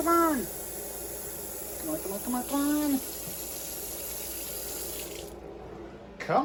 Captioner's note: water continues running